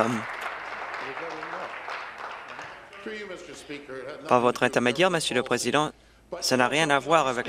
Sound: applause

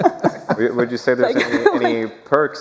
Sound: laughter

